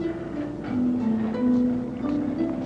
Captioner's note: sighs